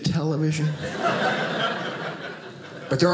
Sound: audience laughing

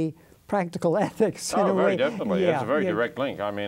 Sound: laughs

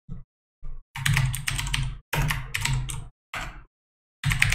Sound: keyboard clicking

